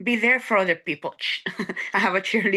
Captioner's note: laughing